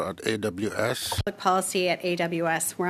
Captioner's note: speaking French